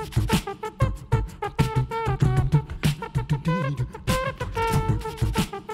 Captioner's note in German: Er macht Trompetengeräusche